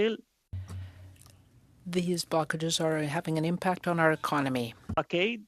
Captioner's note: speaking French